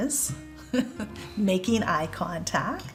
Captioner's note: chuckling